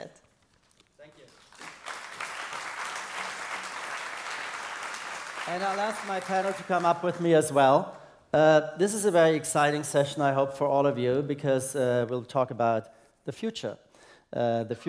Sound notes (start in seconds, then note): 1.0 applause